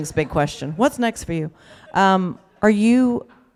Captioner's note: laughter